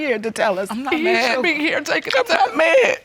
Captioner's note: crying